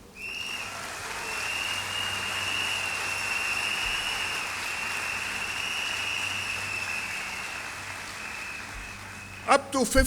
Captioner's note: applause